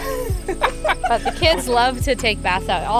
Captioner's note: everyone laughs